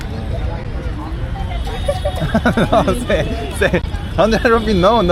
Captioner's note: answers with a laugh